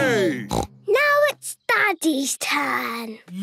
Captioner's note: snort